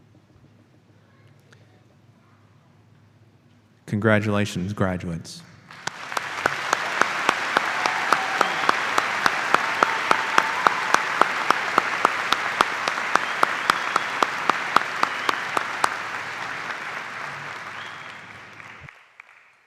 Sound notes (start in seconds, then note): 5.6 applause